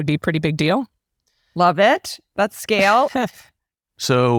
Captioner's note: laugh